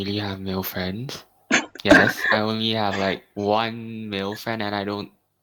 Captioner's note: chukles